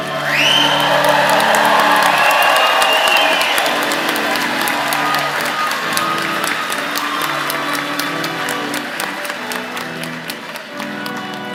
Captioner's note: cheers and applause